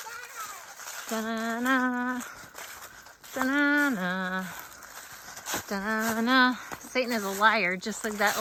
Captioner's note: humming